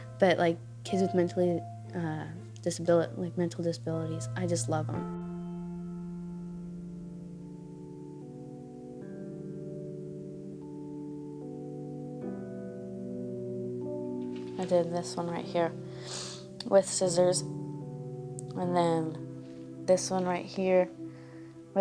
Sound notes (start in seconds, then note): 8.3 somber music; 15.9 sniffles